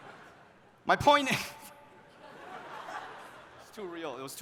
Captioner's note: laughs